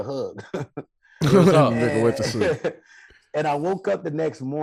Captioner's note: Rel chuckles